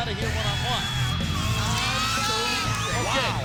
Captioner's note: crowd screaming